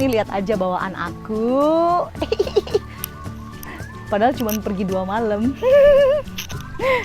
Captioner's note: laugh